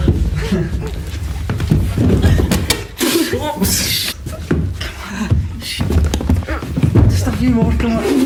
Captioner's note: stumbling up stairs, giggling